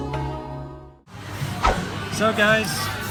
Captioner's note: whoosh; music fades